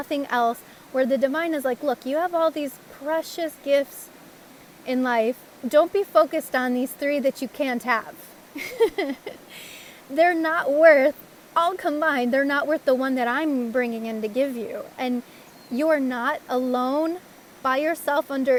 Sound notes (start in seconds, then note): 8.5 laugh!